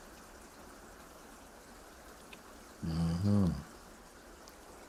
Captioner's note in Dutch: stilte